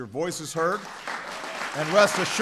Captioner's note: applause